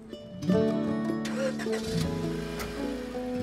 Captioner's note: Car ignition starting